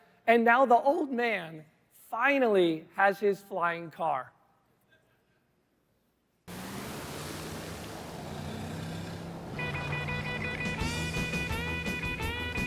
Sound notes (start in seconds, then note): 6.4 car engine; 9.5 rock music